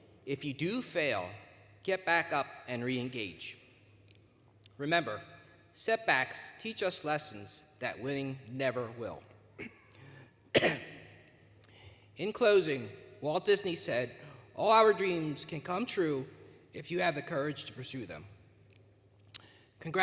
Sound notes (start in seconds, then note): 10.4 coughs; 10.5 clears throat; 19.2 smacks lips